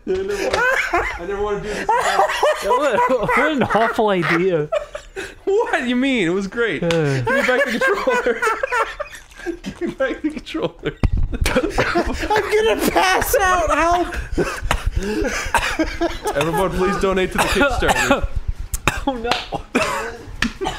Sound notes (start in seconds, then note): 2.5 laughing; 4.6 giggle; 6.8 laughs; 7.2 Mama Luigi Laugh; 11.5 Ding Dong coughs; 14.0 Ding Dong continues to cough/choke; 14.2 laughs; 18.3 cough; 19.7 splutter